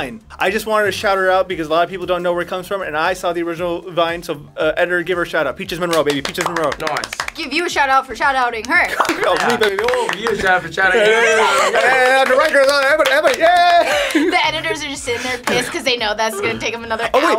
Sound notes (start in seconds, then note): 11.1 laughs; 12.7 cheers incoherently